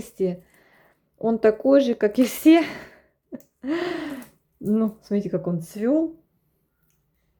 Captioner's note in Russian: тяжело вздыхает